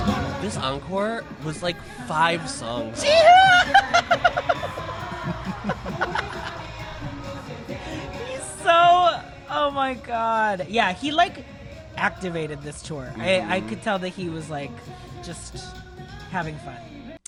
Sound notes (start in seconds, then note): 2.6 giggles; 5.4 chuckles